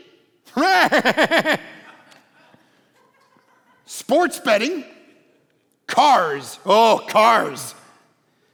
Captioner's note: laughing